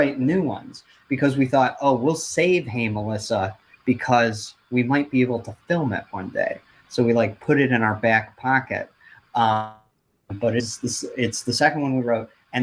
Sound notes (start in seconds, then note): 10.3 audio glitches